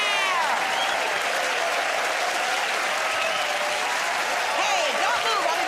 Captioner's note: cheers and applause